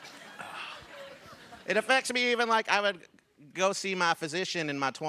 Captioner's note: laughter